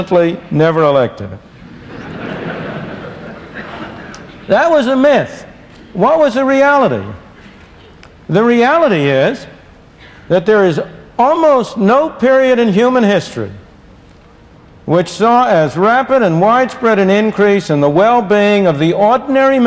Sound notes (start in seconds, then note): 1.6 laughter